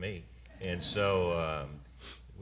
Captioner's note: laughter